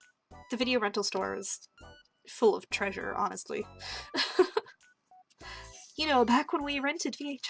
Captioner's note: laughter